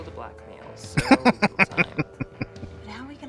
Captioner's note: laughing